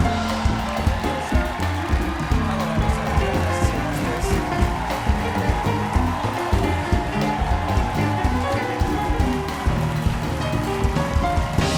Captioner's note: applause